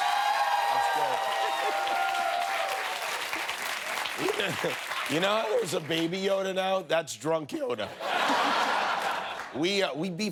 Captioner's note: cheers and applause